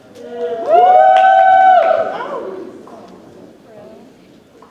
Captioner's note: audience cheers